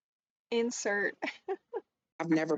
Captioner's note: laughs